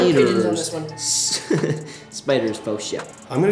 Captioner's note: laughing